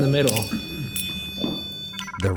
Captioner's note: REM-Pod beeping; device trilling